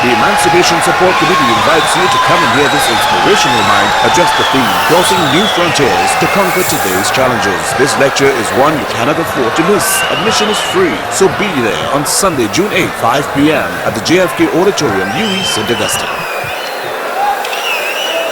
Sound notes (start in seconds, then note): 15.3 wild applause and cheering for 22 seconds